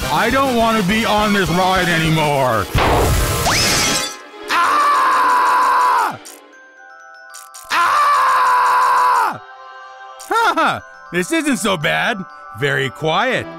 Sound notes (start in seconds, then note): 0.2 in shaky voice; 2.7 explosion/crash